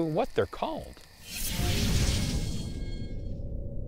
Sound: whooshing

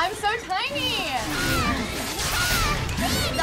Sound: Pikachu screams

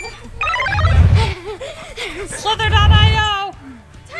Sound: laughing

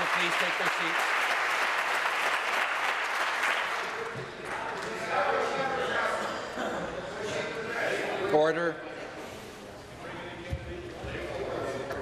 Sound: some Applause

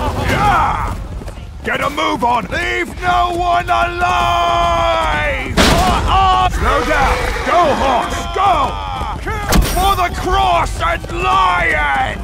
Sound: battle cries

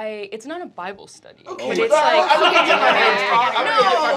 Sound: laughter

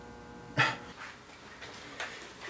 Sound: sighs

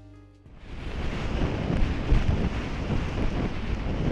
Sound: waves crashing

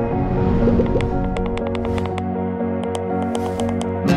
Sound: keypad clicking

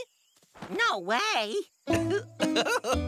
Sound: chuckles

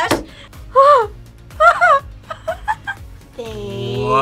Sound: laughs

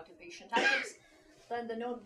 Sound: student coughing drowns out

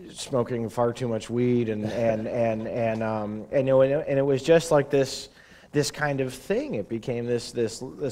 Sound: chuckle

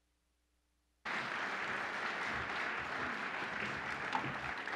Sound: audience applauding

